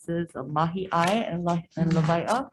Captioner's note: speaks foreign language